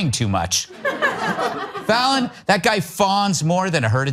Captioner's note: laugh